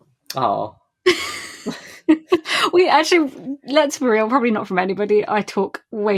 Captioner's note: laughs